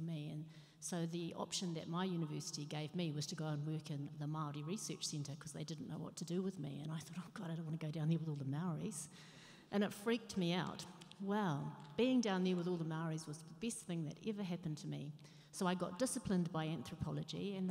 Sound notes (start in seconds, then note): none